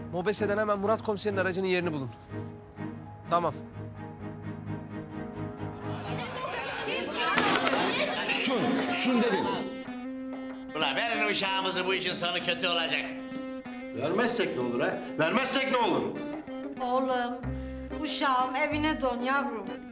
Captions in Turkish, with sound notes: Mobese'den hemen Murat Komiser'in aracının yerini bulun. Tamam. (Tartışıyorlar) Susun! Susun dedim! Ulan verin uşağımızı, bu işin sonu kötü olacak. Vermezsek ne olur ha, vermezsek ne olur? Oğlum, uşağım evine dön yavrum.